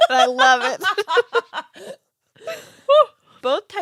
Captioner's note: laughing